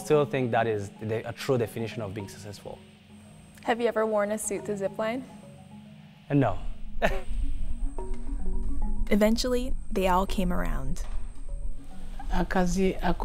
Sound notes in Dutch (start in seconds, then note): 7.0 lacht